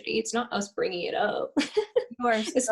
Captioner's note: laughter